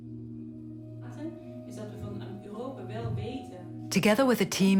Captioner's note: Korean spoken audio